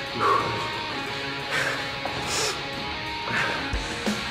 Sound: heavy breathing

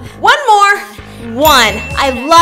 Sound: bell dings

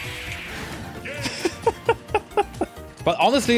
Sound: dirty laughing

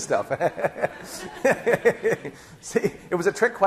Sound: laughing

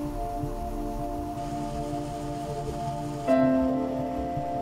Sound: water gushing

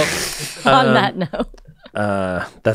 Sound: laughs

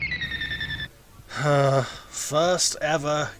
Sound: 𝘴𝘪𝘨𝘩

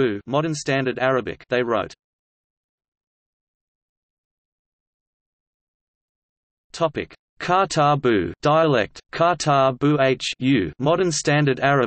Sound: dialect

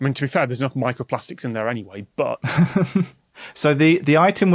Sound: chuckles

